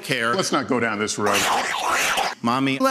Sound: Ron enjoys a lollipop far too loudly

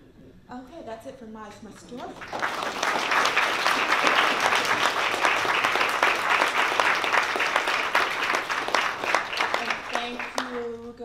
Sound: applause

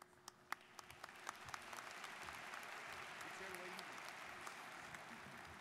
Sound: students applauding

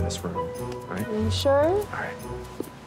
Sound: Brock whispers

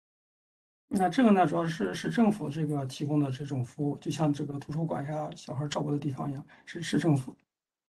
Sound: speaks in Mandarin

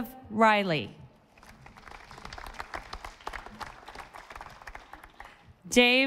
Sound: audience applauding

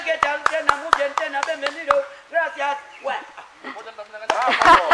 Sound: applause

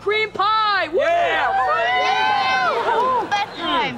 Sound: cheering

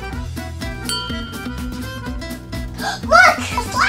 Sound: slide tinging; assistant gasping

